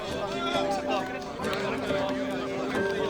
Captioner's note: indistinct chatter